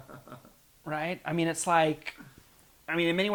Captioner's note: laugh